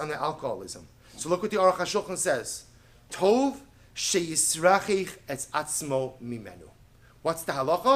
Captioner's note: Hebrew